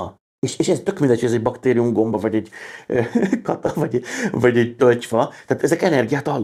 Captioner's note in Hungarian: nevetés